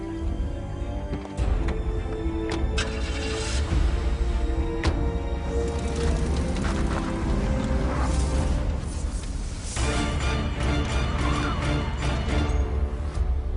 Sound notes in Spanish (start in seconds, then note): 4.7 Ruido del motor